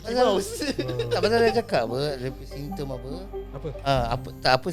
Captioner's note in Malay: ketawa